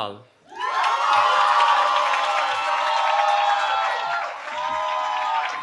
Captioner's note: cheering